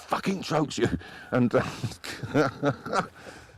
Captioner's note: laughing